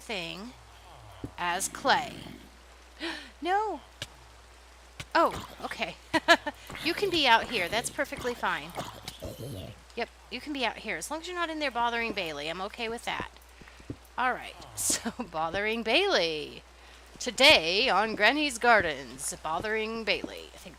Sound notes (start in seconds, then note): 3.0 gasp